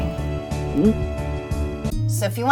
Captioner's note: gulping